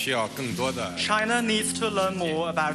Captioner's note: speaking Chinese